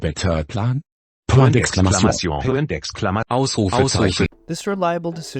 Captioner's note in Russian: Недовольные немецкие звукт